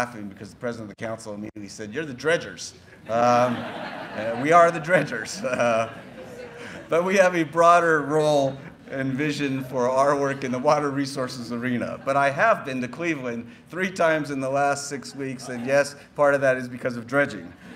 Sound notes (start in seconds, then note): 2.9 laughter